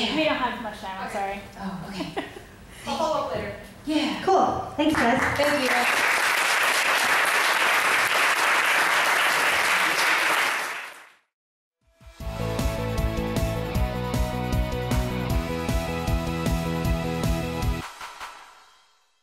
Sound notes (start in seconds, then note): 0.2 voiceover; 7.2 voiceover; 8.5 clapping; 12.2 upbeat music